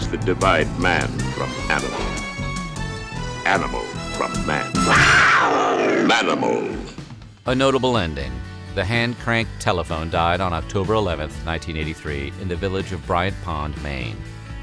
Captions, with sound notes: that divide man from animal, animal from man. [ROAR] "Manimal." A notable ending, the hand cranked telephone died on October 11, 1983, in the village of Bryant Pond, Maine.